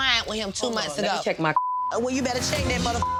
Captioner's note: beep